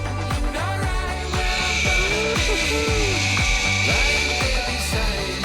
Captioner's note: zip line whooshes